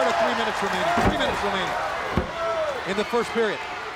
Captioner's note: crowd cheering